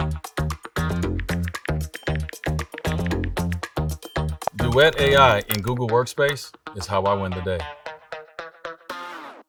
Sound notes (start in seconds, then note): 0.7 text message clicking